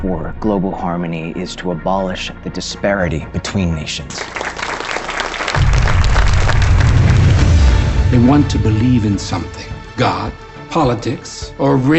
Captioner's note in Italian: Applauso